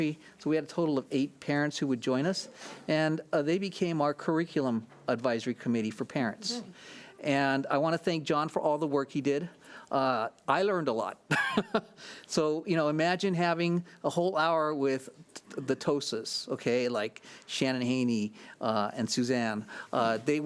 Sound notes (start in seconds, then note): 12.2 laughs